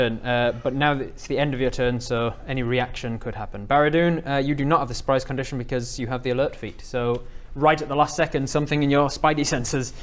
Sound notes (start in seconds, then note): none